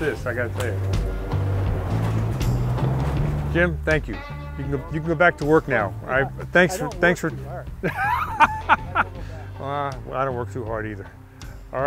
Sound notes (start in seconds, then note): 7.5 laughs